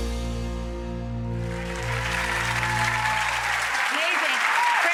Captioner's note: audience clapping